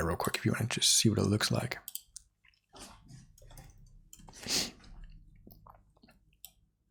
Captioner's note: silence